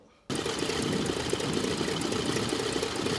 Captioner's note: whirring